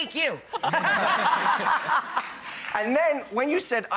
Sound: audience laughs

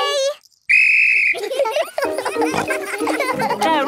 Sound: blows whistle; giggling

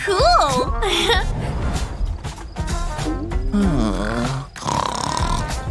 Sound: snoring

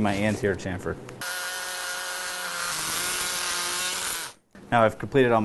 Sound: drilling sound

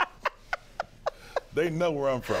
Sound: laughter

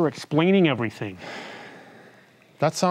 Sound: Mittens sighing deeply

